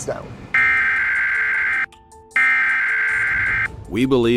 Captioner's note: emergency alert tone